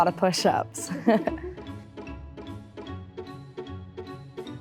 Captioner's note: chuckling